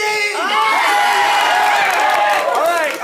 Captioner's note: cheering